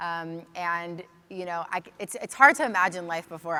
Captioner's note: none